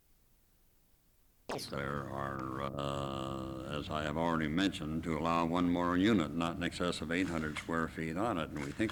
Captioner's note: camera noise